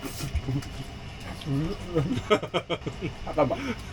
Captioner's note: bursts out laughing late